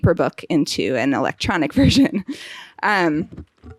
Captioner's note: chuckling